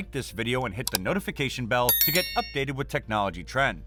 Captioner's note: with a bell sound